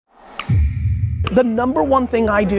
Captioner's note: logo clicks